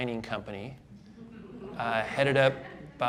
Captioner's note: audience laughing